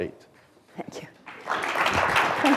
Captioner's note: applause